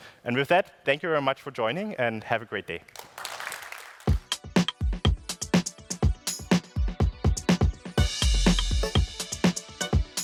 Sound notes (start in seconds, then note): 2.9 applause